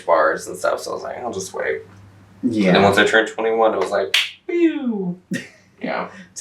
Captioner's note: claps